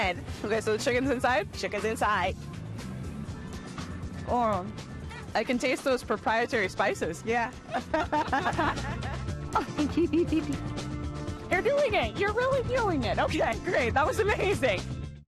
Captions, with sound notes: Okay, so the chicken's inside? -Chicken's inside. -Oh! I can taste those proprietary spices. -Yeah. [ Laughing ] -You're doing it. You're really doing it. Okay. Great. That was amazing.